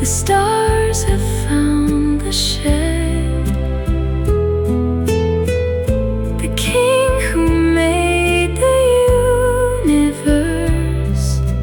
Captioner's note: outro: humming